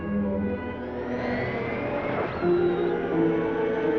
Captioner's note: machine whirring; ominous music